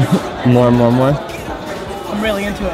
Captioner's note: laughs